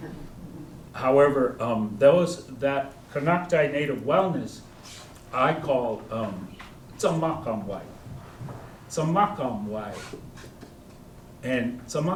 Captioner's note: speaking koi